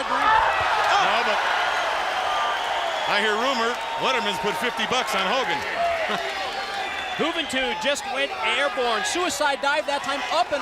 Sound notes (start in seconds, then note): 4.8 crowd cheering